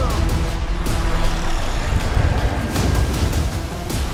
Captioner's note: growling